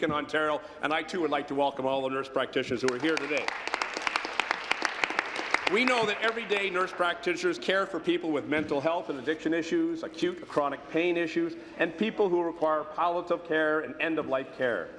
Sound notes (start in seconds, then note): 8.0 applause